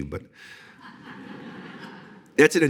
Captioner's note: audience laughing